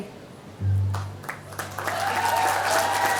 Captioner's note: applause